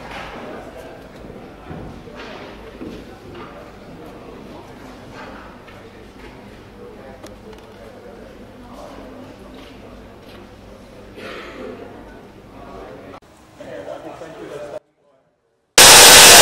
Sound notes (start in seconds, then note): 11.1 cough; 15.8 white noise